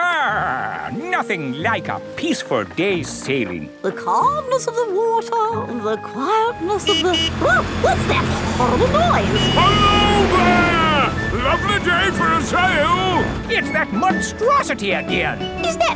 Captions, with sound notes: Ahh, nothing like a peaceful day's sailing. The calmness of the water, the quietness of the... (HONKING) Oh! What's that horrible noise? Hello there! Lovely day for a sail! It's that monstrosity again!